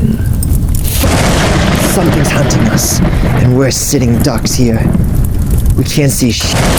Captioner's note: thunder